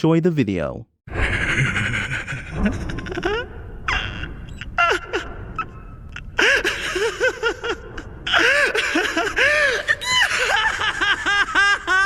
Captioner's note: maniacal laughter